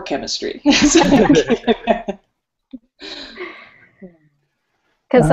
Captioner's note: laughter